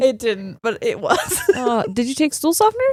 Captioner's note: laughing